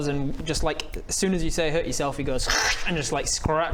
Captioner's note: krrrscck